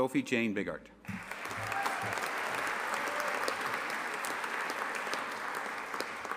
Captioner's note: audience applauding and cheering